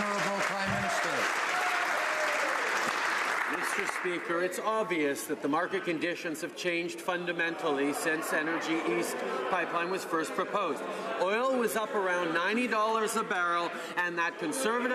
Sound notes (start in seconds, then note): 2.1 some Applause